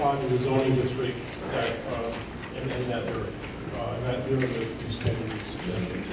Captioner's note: speaking faintly